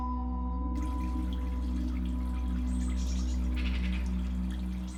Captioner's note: birds chirping